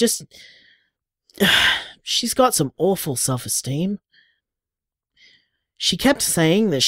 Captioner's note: sighs